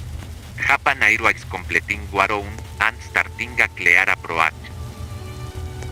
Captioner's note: speaking Spanish